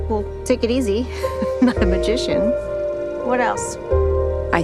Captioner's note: chuckles